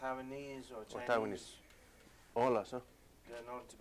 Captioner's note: non-english speech